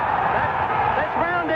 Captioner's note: crowd cheers